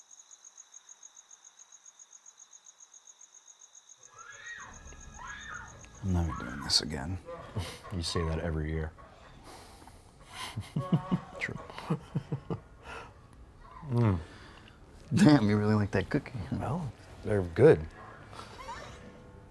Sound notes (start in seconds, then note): 5.1 woman screams; 10.1 laughs